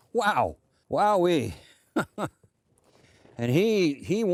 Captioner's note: laughs